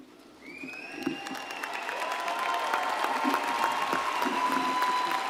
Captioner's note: audience cheers and applauds